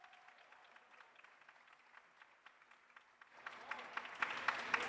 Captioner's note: audience applauds